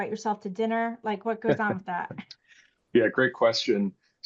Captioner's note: chuckles